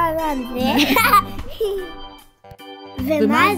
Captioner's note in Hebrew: צחוק